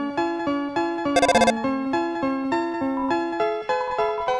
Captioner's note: ring